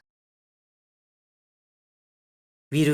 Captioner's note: silence